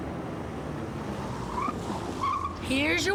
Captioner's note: tires squealing